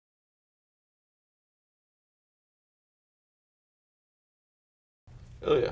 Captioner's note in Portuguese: sem_áudio